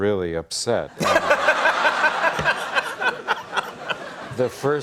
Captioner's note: audience laughter